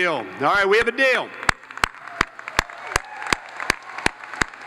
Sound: all applauding

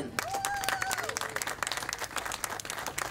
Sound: applause

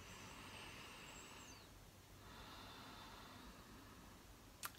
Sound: breathing deeply

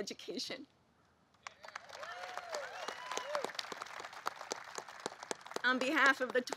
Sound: applause

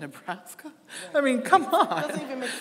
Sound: audience laughing; laughing

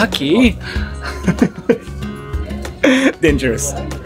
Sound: laugh

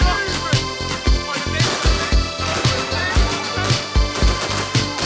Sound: fireworks cracking

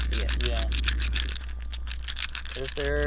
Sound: dice rattling

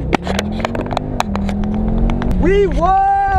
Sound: heavy Acceleration

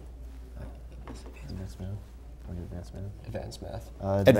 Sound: players whispering

